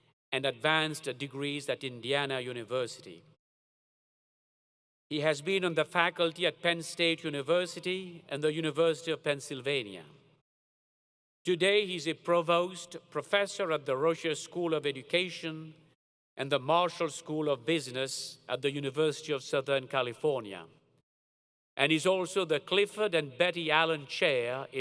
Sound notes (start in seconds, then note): none